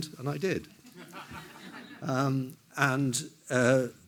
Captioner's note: everyone laughs